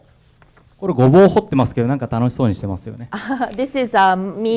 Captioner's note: speaking foreign language